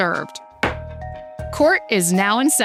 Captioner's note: gavel thudding